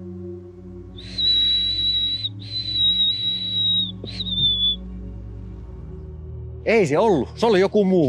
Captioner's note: more whistling